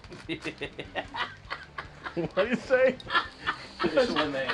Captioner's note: Danny laughing